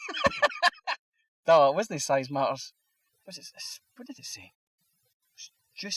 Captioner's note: laughs